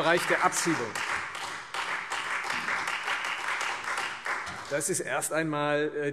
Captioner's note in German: Beifall Freie Demokraten und CDU